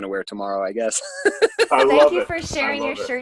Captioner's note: laughing